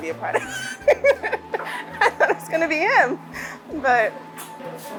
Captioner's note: laughs